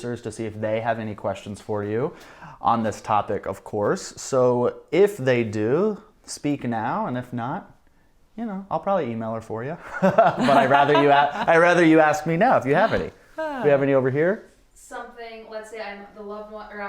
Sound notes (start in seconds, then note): 9.9 laughs